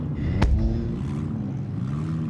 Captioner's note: door slams